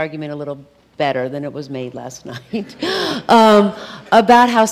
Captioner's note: laughs